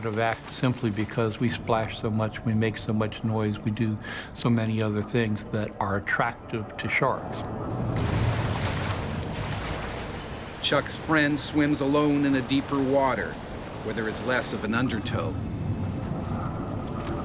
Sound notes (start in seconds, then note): 7.7 splashing; 10.6 voiceover